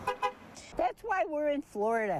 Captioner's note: car horn honking